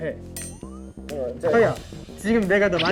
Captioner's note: very determined voice